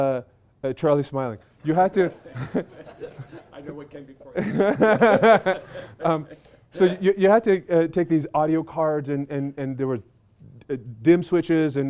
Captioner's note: laughter